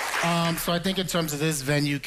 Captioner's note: applause